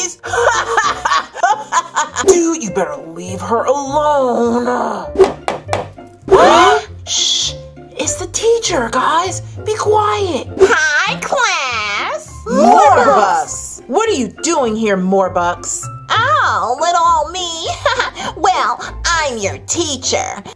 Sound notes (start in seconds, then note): 0.2 laughing; 5.2 knocking; 6.3 students gasping